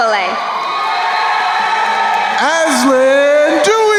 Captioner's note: crowd cheering